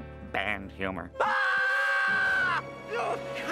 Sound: screaming

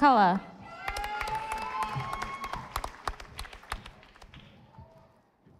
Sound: audience applauding

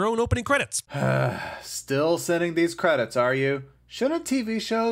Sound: sigh

